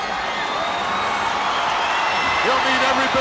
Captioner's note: audience cheers